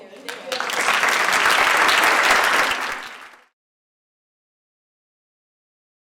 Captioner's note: audience applauds